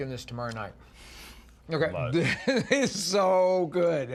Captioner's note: laughing